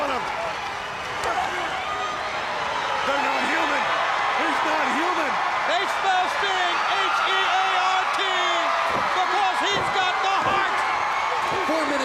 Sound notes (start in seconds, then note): 1.2 crowd chatter; 1.8 crowd cheering